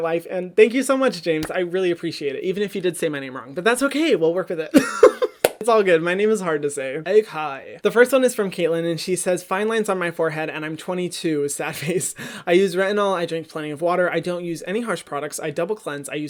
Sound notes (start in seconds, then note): 4.7 laughs